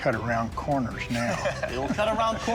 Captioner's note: laughter